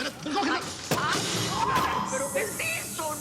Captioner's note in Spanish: Estrépito